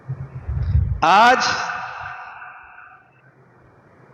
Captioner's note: sigh